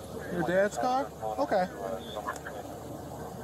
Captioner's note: radio chatter